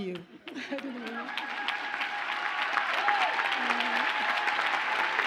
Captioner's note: audience cheers and applauds